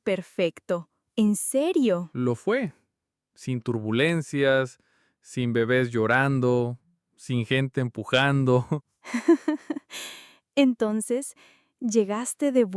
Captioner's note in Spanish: risas